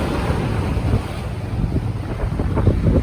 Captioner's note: sound of the waves